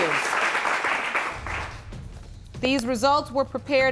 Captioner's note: applause